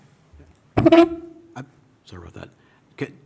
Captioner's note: scraping